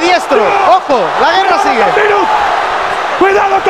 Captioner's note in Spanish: grita